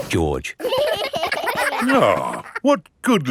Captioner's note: giggling